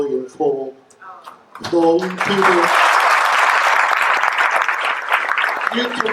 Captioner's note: audience applauding